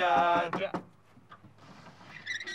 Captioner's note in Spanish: golpeteo